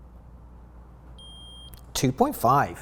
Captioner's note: meter beeps